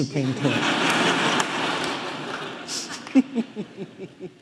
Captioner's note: audience laughing